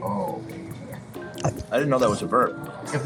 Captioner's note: gulping bite of sandwich